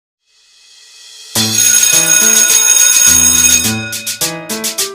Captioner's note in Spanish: Suena la campana